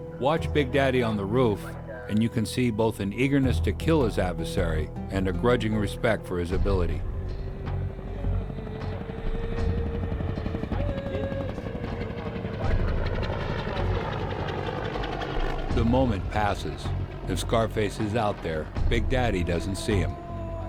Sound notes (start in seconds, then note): 0.3 voiceover; 7.6 sound of helicopter rotors